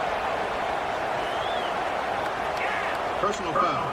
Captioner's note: crowd Noises